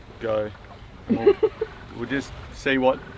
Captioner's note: laughs